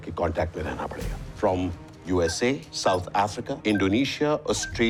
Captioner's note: beeping